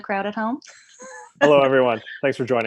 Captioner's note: both chuckles